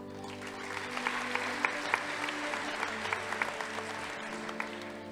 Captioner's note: audience applauding